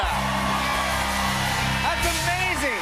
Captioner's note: cheers and applause